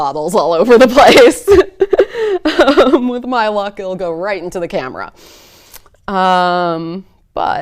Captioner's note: laughs